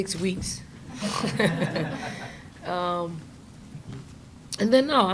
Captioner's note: chuckles